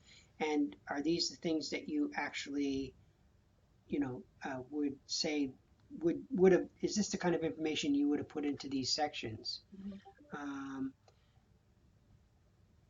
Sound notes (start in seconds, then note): none